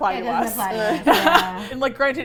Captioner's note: laugh